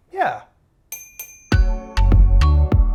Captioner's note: bicycle bell rings; upbeat music